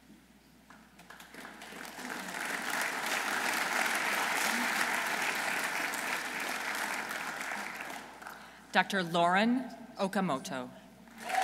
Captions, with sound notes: (audience applauding) Dr. Lauren Okamoto.